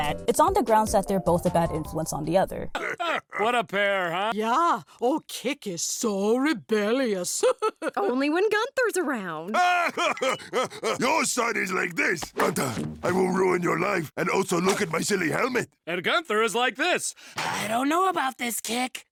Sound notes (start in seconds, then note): 2.7 laughs; 12.1 mocking